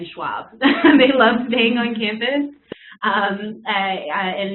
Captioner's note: laugh